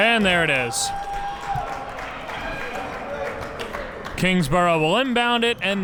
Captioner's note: crowd cheers